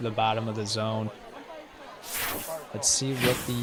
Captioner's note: indistinct chatter